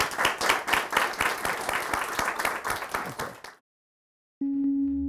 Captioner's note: applause continues